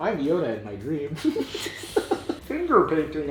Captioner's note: giggles